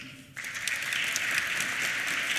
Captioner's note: applause